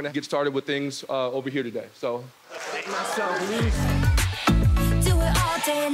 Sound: audience claps

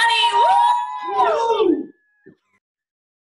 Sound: cheers

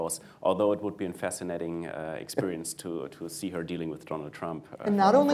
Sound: laughter

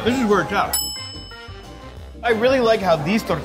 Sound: bell dings

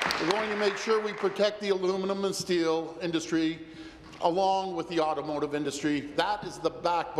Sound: applause

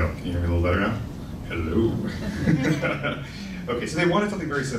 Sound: laughing

